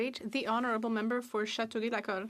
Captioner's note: speaking French